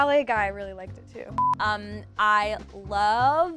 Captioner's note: monotonous high pitch sound